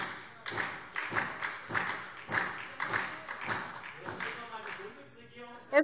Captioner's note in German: Beifall